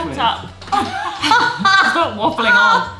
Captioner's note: laughs